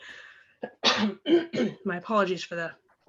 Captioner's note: clears her throat